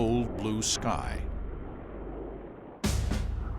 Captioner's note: engines roaring